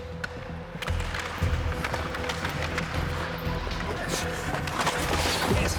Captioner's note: skating and puck being hit